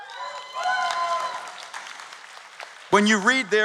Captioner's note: cheers and Applause